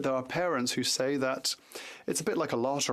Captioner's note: speaking French